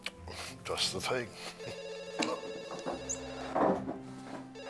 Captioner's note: phone ringing